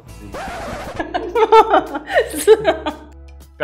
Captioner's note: laughs